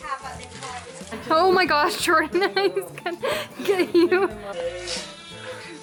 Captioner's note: laughter